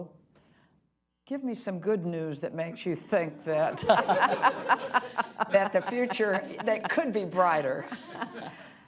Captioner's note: laughter